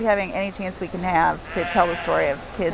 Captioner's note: bleats